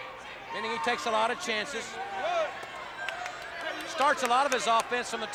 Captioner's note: hands clapping